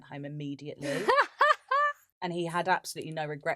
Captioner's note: laughs